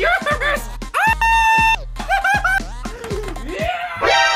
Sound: screaming

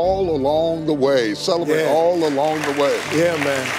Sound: audience clapping

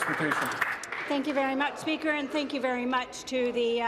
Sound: applause

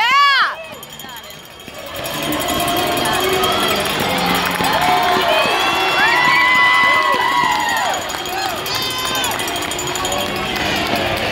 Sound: bell ringing and crowd cheering

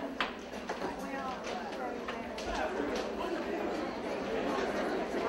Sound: people chattering

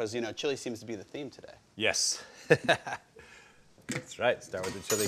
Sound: chuckles

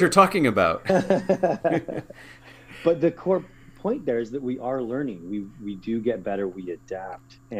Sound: laugh

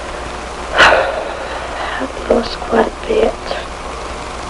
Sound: sighs

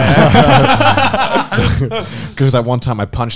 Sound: men laughing

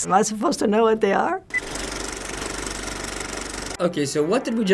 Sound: movie reel clicks

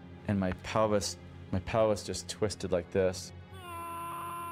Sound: shouting

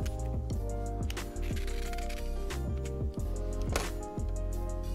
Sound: peeling sound

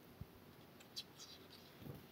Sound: none

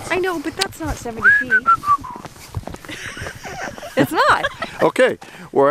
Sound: whistleing

